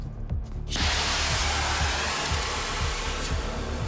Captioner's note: tense music; torch blowing